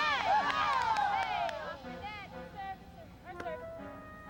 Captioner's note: women cheering and clapping